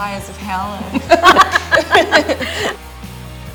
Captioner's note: laughs; upbeat music